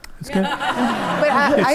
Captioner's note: audience laughs